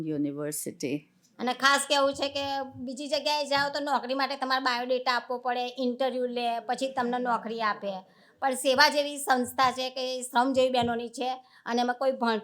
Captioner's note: speaking gujarati